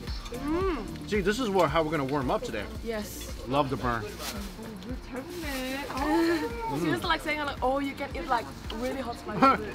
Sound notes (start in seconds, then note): 5.2 speaking in foreign language